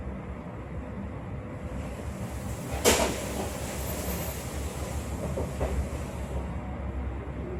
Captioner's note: more sweeping noises